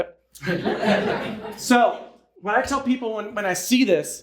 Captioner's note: audience laughing